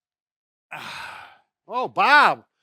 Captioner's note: groaning